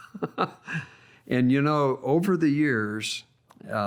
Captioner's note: laughs